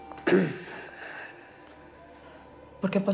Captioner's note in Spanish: Roco carraspea